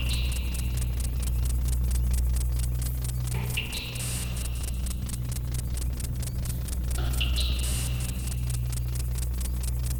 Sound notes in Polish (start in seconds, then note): 3.4 Miarowe przedłużenia metalicznych uderzeń